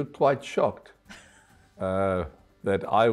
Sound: chuckles

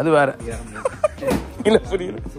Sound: laughs

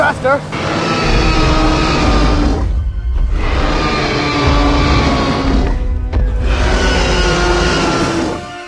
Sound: T-Rex Stomping and Roaring Sounds

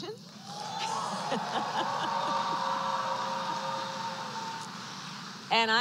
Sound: applause; laughs

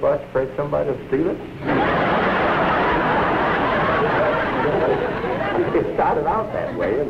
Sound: laughter

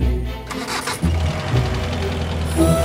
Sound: engine starts

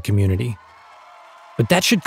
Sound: audience cheers

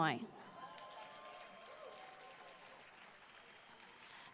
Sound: applause

